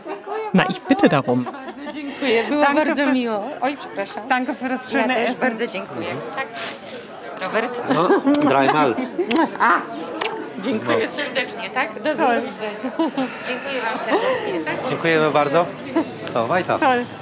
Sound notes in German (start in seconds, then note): 11.5 spricht polnisch